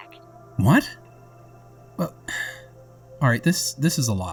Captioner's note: sigh